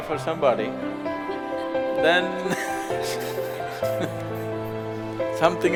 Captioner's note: laughs